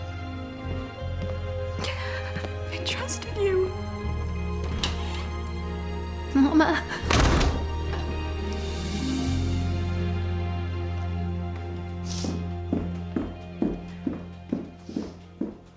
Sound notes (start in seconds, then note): 7.0 door shuts